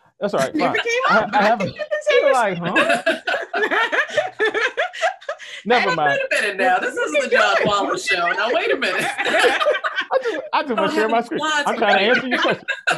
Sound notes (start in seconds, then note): 2.6 panel laughs